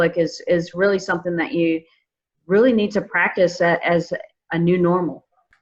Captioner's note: none